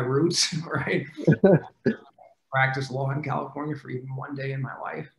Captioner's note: faintly speaking